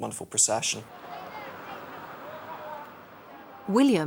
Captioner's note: distant chattering